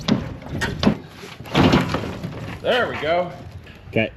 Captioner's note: crate thuds